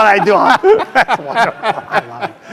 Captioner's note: laugh